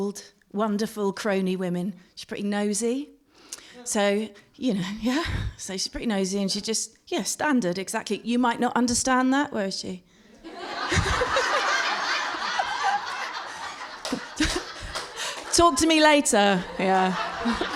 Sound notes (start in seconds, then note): 13.8 laughter